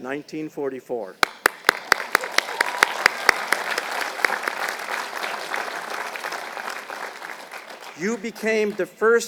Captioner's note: applause